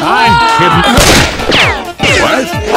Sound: gunshot and ricochets

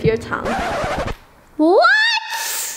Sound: record scratching

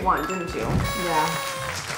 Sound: bell chimes; horn blows

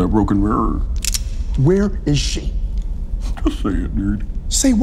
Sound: gun cocks

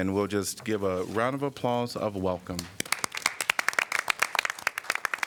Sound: applause

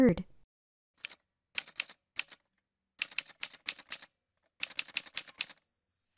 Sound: typewriter sounds

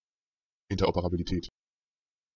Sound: fast Pronunciation

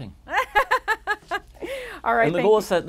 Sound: laughs loudly

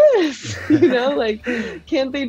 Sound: laughs

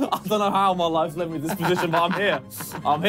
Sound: laughing

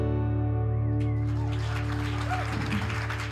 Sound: ending notes fade; cheers and applause

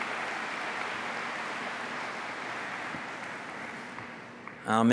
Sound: applause

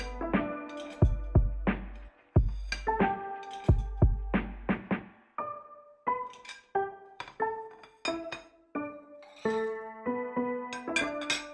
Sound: music and cutlery noises

